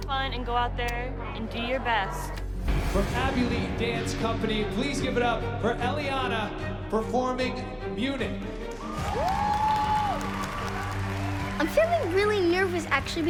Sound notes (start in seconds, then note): 8.6 applause and cheering